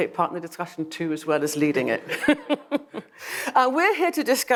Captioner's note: laughs